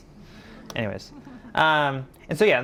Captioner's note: audience laughing